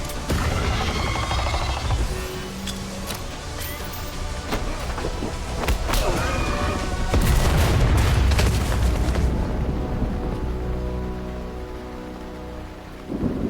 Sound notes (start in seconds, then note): 0.4 creature screams; 2.6 dramatic music; 7.1 explosion blasting; 10.2 dramatic music